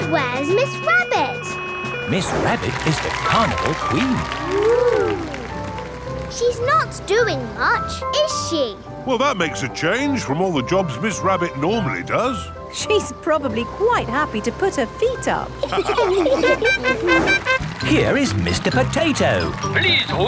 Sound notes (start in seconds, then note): 15.6 all laughing; 16.5 horn tooting